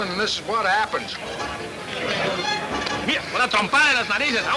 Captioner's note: speaking Spanish